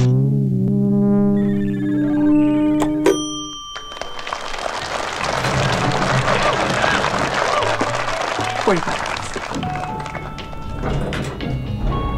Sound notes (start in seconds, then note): 3.7 applause